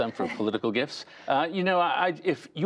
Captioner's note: laughter